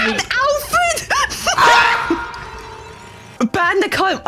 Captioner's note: screaming as the void takes him